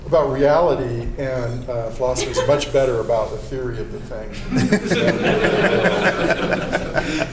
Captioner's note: laughter